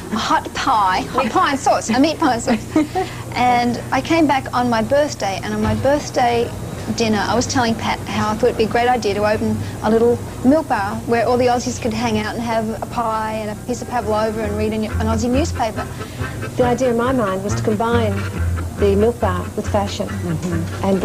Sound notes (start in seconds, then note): 2.3 laughter